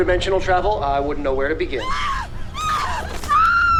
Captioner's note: woman screaming